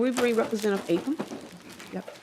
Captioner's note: gavel